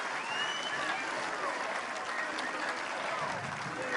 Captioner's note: applause